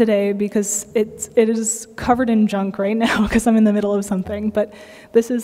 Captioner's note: laughter